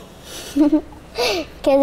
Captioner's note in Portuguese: risos